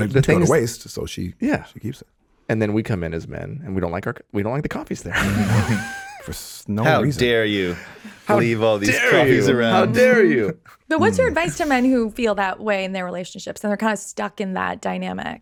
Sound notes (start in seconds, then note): 5.1 Justin laughing